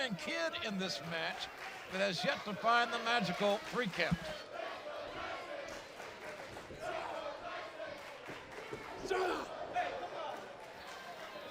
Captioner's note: crowd cheering